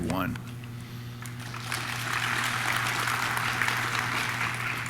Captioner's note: audience claps